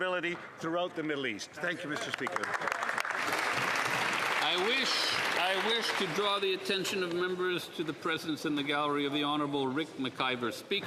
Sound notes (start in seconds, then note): 6.3 some Applause